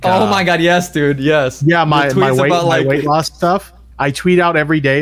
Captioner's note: laughs